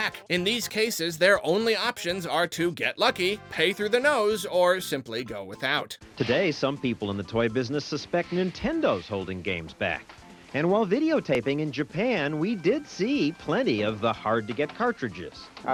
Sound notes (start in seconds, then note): 5.7 news voiceover